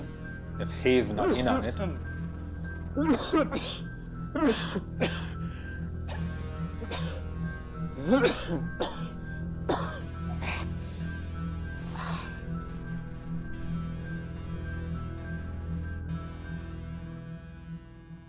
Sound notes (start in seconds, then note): 1.6 suspenseful music; 2.9 Thomas coughing